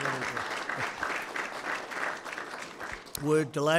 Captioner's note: applause